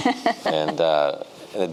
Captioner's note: giggles